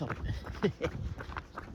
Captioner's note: laughs